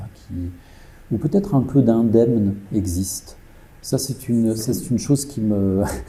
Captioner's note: laughs